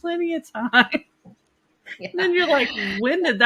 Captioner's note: laughs